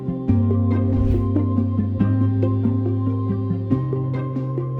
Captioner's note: air whooshes